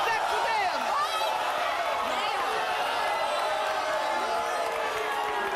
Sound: audience yells and boos

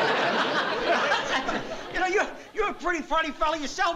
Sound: laughs

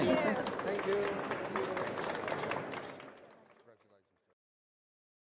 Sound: audience applauds

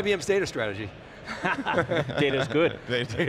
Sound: laughs

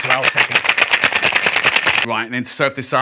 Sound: ice shaking

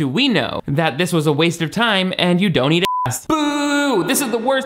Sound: beep

